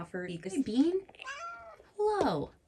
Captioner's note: meows